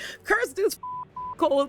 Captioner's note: beep